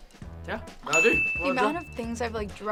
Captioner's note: bell dings